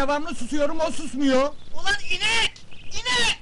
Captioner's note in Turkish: telsi̇zden ses geli̇r